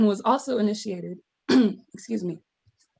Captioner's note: coughs